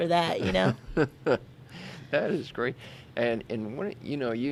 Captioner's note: laughs